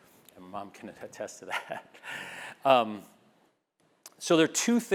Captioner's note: laugh